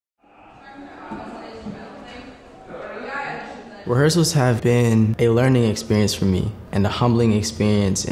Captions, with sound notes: (crowd chattering) - Rehearsals have been a learning experience for me and a humbling experience,